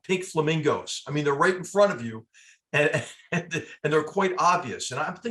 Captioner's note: laugh